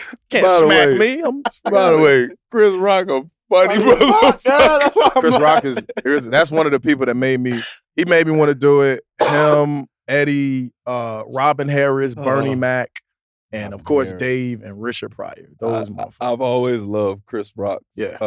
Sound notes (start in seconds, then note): 3.7 laughs